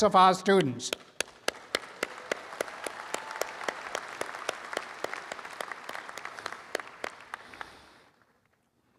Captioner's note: applause